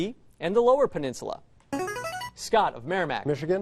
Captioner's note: buzzer